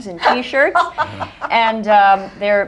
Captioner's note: laughter